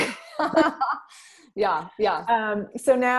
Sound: both laughing

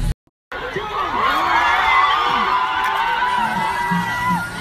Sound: cheering and screaming

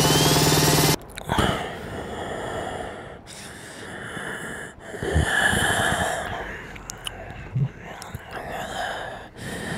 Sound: loud and prolonged breathing sounds

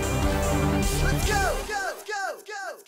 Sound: upbeat music; voiceover

